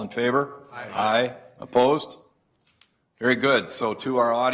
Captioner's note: multiple voices